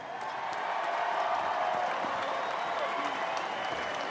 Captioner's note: crowd cheering